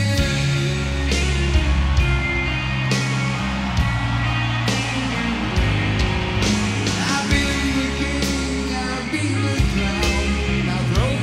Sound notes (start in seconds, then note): 0.2 audience cheering; 0.7 slow rock music